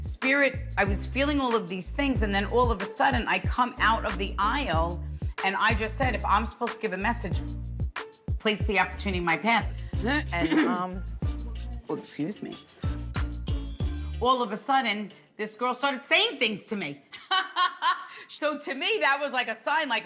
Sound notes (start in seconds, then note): 10.4 clears throat; 17.2 laughing